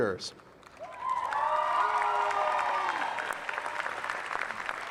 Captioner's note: cheers and applause